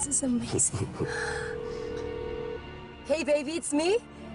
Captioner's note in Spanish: La otra línea timbra